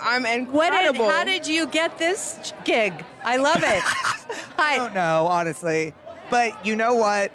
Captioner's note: laughs